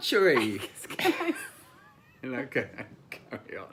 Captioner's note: laughing